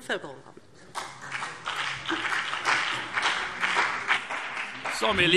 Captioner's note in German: Beifall BÜNDNIS 90/DIE GRÜNEN und CDU